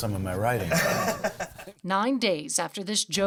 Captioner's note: laughs